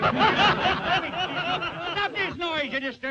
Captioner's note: all laughing